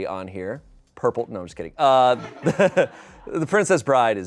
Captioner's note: audience laughing